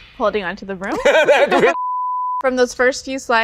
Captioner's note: laughs